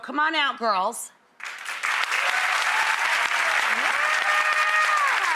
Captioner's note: audience applauds